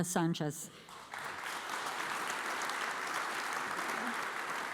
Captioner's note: audience applauds